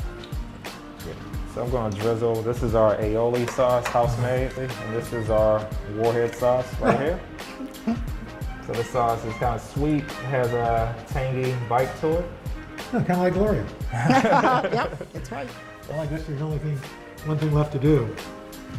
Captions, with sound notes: I'm going to drizzle, this is our aioli sauce. House made. This is our warhead sauce right here. This sauce is kind of sweet. Has a tangy bite to it. - Kind of like Gloria. (laughter) - Yep! That's right. - One thing left to do.